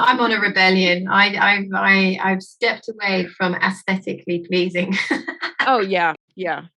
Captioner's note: laughing